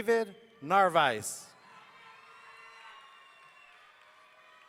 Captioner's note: audience cheering